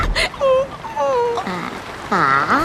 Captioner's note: crying